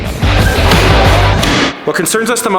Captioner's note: inquisitive music; nail guns bangs